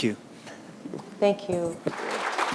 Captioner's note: applause